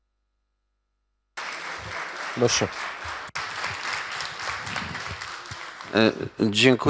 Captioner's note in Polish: oklaski